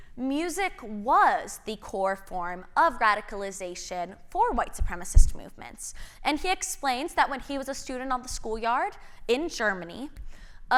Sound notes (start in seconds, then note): none